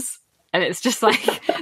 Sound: laughs

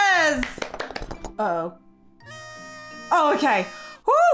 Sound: party horn squawking

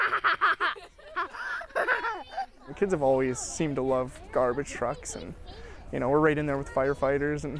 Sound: laughter

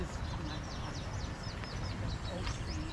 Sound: birds chirping

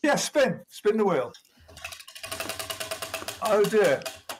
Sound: wheel ticking

